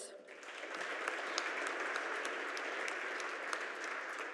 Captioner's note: audience applauding